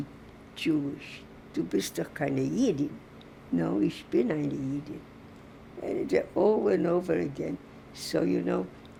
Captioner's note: german